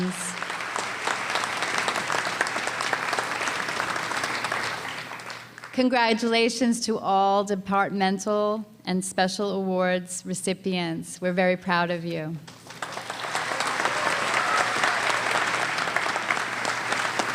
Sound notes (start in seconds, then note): 0.0 applause; 12.5 applause